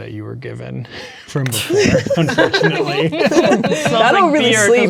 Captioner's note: players laughing